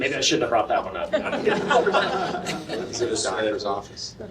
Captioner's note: laughter